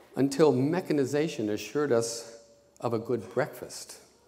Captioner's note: none